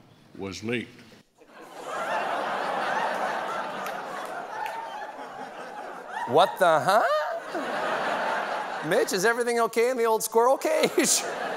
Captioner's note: laughter